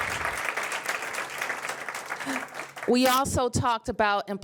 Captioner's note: applause